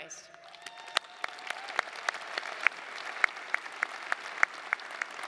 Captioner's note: audience applauding